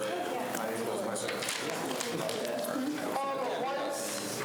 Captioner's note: students chatter